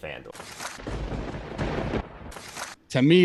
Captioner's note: lightning cracks